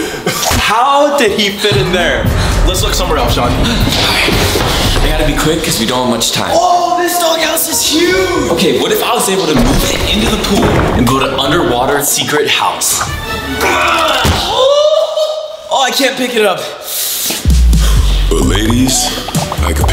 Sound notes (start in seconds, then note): 14.0 grunts; 17.8 gasps